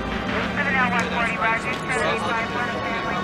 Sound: police radio chatter

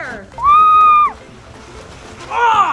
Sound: cheering; laughs

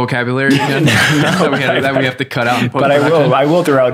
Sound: laughter

